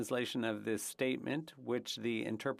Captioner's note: speaking French